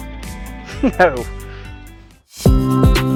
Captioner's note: laughs